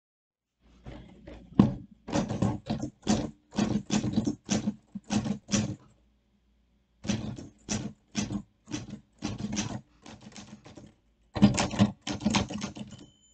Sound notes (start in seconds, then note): 1.1 typewriter dings; 1.1 typewriter noises